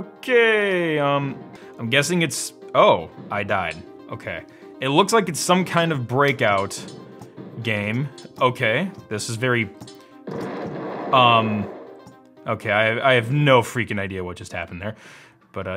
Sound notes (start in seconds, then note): 10.2 exploding